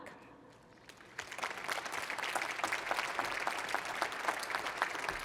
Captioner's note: applause